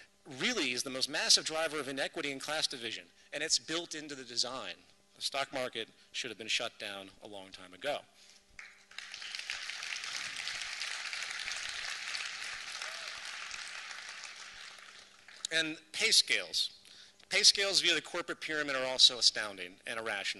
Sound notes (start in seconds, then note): 8.5 applause